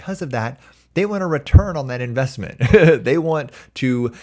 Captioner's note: chuckles